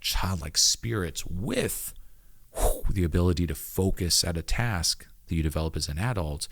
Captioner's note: whooshes